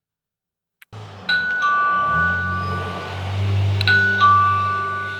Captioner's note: doorbell ringing